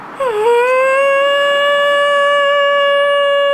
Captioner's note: Heult